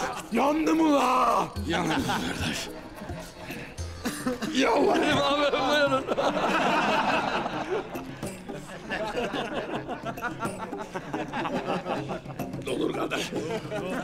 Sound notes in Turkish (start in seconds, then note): 5.9 Gülme sesleri